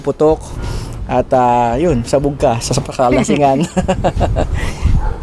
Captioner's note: laughs